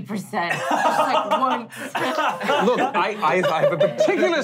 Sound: laughing

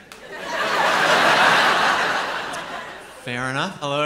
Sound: laughter

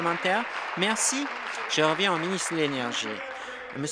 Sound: applause

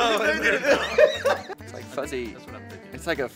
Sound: laughs

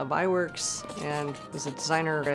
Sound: pencil scratching

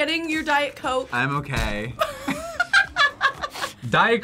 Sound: both laugh

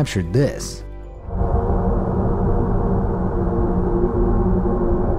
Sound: eerie noises

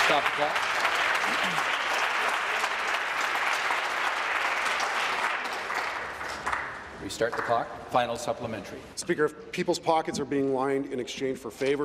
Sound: applause

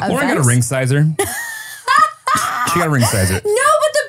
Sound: laughs

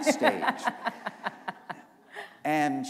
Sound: laughter

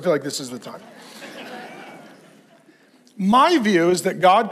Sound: congregation laughs

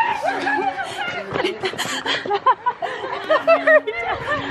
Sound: laughing

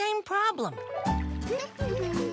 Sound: humming

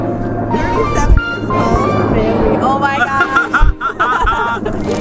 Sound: laughing

